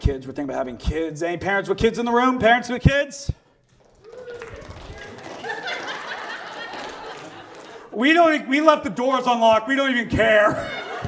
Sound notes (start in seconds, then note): 3.9 light claps; 4.9 audience laughs